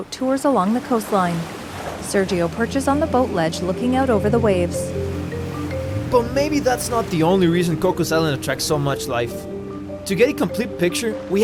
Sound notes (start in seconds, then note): 0.3 water splashing; 3.2 engine roaring